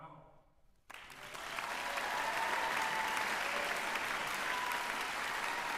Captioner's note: applause